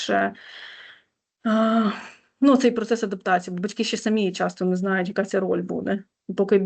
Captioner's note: sigh